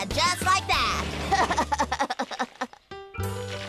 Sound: laughs

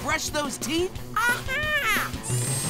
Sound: squeaking

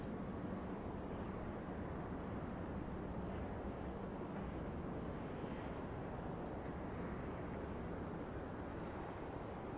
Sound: cars passing & birds chirping

